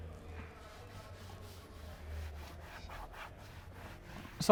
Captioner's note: wiping